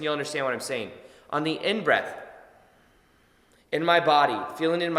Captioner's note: inhales deeply